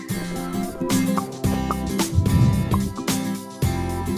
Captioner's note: ball popping